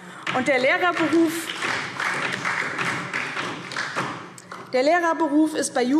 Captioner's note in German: Beifall DIE LINKE und vereinzelt SPD